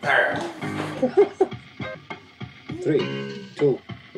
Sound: laughs

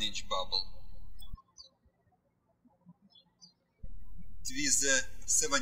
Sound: birds chirping

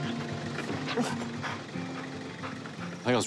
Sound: dog grunts, pants

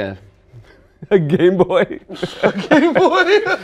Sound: laughs

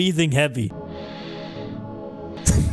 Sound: inhales

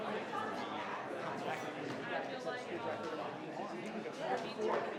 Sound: crowd chattering continues

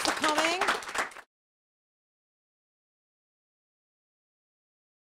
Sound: applause

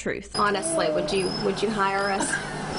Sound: laughter

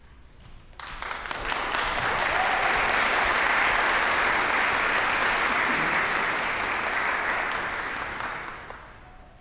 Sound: applause

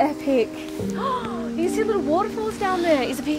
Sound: gasps

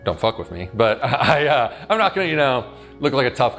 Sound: laughs

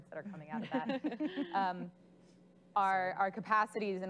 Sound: laughing

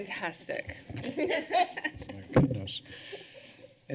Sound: laughter

